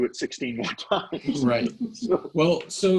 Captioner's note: laughing